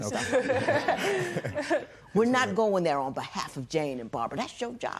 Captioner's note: laughter